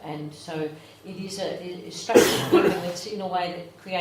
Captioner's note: coughing